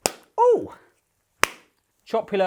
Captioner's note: smacks